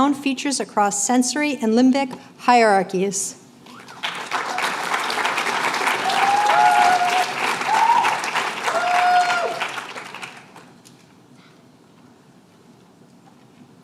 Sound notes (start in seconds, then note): 3.6 applause